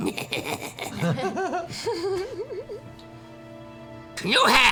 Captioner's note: cackles; laughs